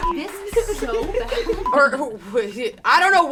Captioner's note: girls humming; beep; laugh